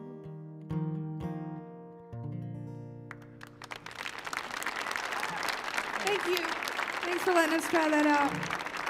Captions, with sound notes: [audience applauding] - Thank you. Thanks for letting us try that out.